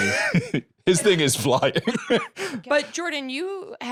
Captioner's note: laughs